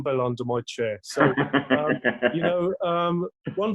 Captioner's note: laughs